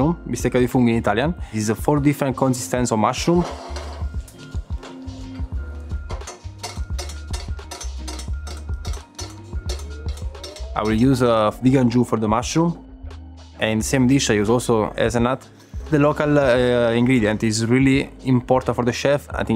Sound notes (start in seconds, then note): 4.8 chill music; 5.8 spoon banging